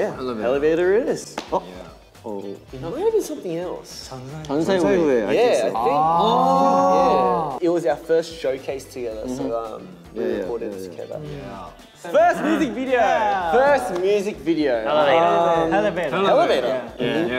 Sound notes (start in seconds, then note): 4.8 speaking in Korean